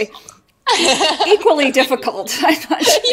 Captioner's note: laughs